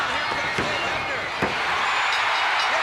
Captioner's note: crowd cheering; hands thudding; bell ringing